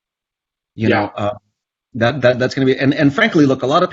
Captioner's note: stammers